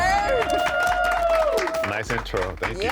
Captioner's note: cheering